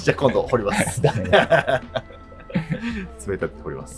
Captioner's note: laughing